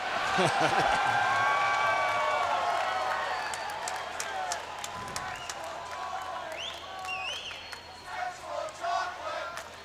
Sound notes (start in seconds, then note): 1.1 crowd cheers